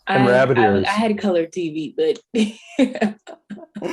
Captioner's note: chuckling